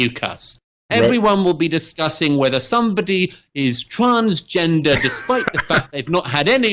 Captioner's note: Harris laughs